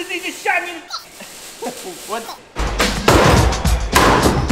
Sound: laughs

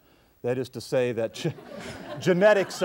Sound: audience laughs; laughs

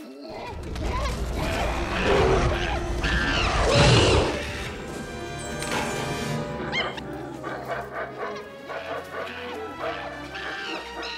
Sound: animal Noises

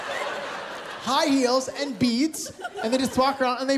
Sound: laughter

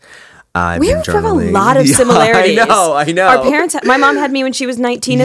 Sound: laugh

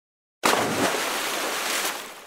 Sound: splash!

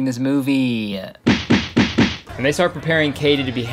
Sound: rapid thudding

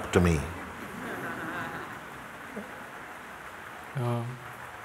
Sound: laughter

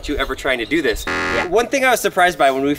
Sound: alarm

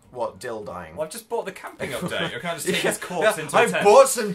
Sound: laughing

